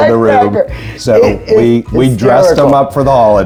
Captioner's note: laughs